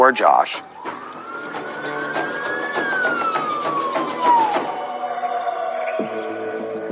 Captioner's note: siriren w waiailing